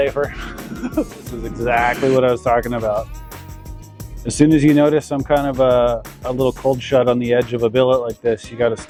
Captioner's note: laughs